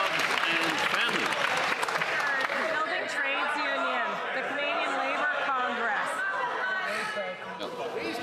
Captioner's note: some Applause